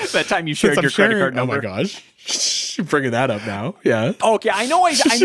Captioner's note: sighs; laughing